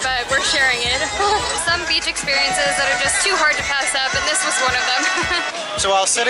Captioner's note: laughter